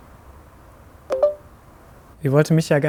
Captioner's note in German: Auflegton